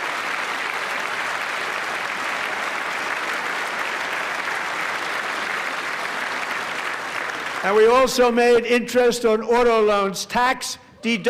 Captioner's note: applause